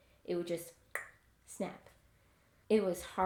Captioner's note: clicks with tounge